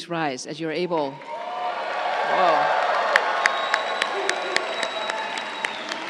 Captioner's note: crowd cheering and applauding